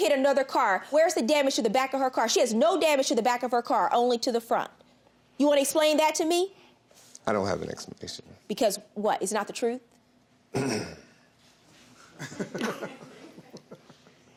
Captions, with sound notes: and you hit another car, where's the damage to the back of her car? She has no damage to the back of her car. Only to the front. You wanna explain that to me? I don't have an explanation. Because, what, it's not the truth? (CLEARS THROAT) (LAUGHS)